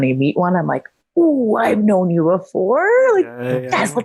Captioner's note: exclaims